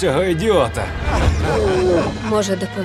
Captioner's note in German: gedämpfter Schrei